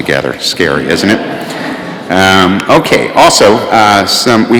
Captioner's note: laughter